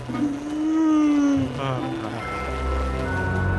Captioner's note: yawn